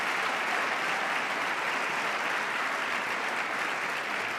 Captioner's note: applause